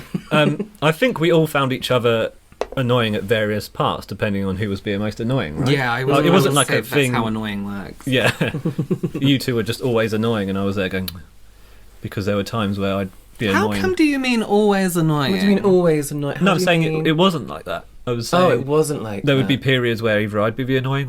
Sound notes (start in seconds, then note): 13.4 annoyed tut